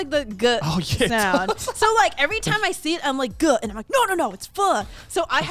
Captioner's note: men laugh